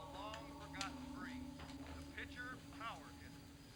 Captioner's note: sound from tv